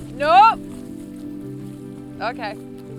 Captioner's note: gentle music continues; water sloshes; gentle music continues